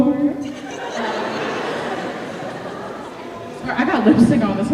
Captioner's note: laughter